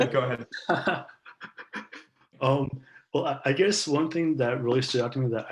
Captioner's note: laughs